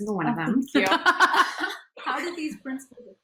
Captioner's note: laughing